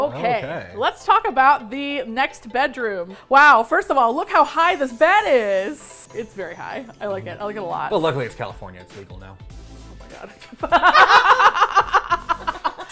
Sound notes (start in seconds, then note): 4.3 tinkly sounds; 10.6 laugh